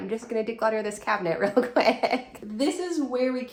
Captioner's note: laughing